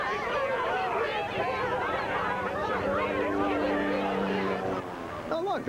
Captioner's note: all shouting; helicopter rotors whirring